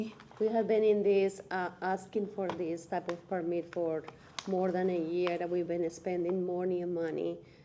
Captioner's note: speaking through interpreter